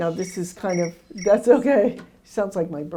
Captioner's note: ringing sound